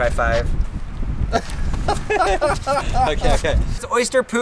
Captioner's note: laughter